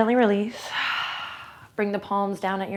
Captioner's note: exhales